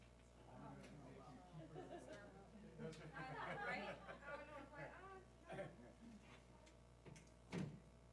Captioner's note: laugh